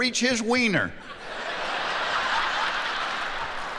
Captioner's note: laughing